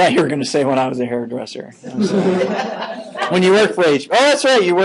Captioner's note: laughing